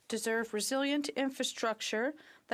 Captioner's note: speaking French